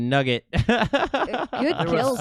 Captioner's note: laughs